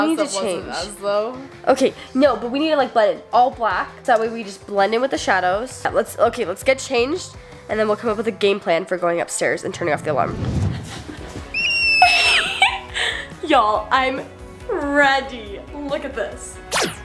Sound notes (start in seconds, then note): 11.4 squealing; 16.7 lasers